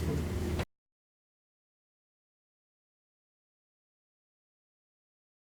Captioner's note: silence